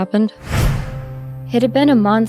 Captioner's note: flashback woosh